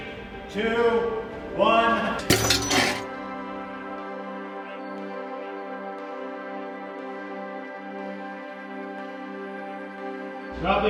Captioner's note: clank sound then music